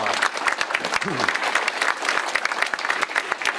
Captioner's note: applause